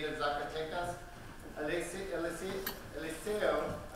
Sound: foreign language spoken

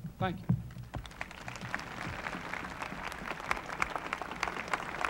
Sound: crowd applauding

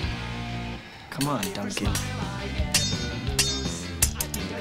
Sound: rings Clanking

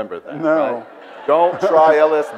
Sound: audience laughs

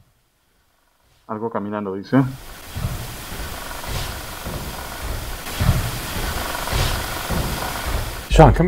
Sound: something walking

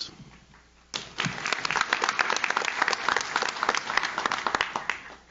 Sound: audience claps

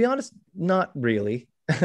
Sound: chuckles

